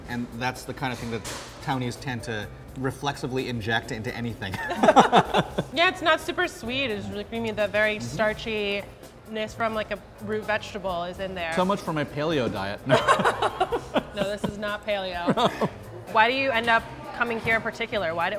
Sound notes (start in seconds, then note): 4.5 laugh; 12.9 all laugh; 15.1 laughs